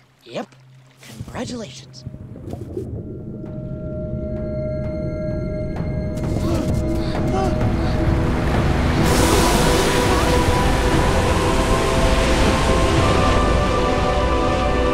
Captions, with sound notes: Yep, congratulations! [bubbling] [gasping] [splashing]